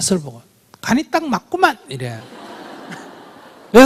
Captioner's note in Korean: 청중 웃음